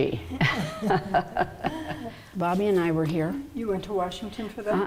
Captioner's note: laughing